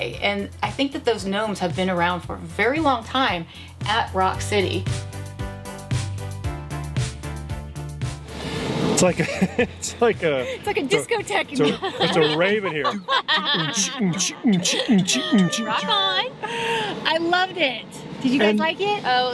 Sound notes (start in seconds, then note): 5.2 bright upbeat music; 9.2 laughs; 13.8 all laughing